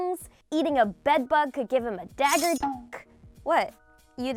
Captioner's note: blade slinking